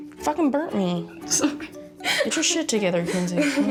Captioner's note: laughs